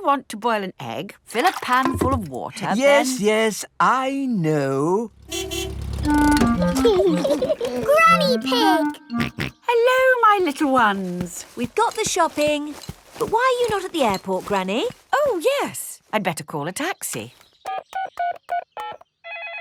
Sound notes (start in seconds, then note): 5.1 car honking; 6.6 laughing; 9.1 snorts; 18.8 dialing